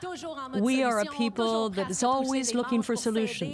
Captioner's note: speaking French